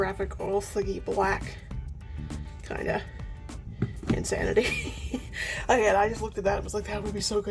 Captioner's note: laughs